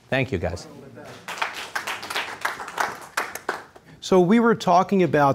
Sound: audience applause

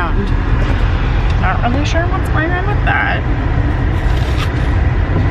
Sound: chews

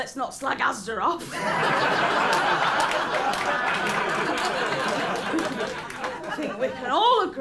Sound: laughter and applause

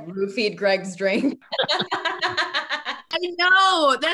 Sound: all laugh

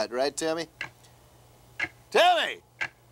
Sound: clock ticking

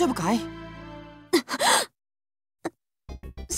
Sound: gasp

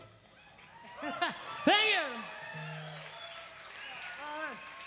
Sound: crowd cheering

